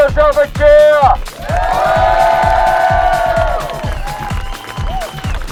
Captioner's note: cheers and applause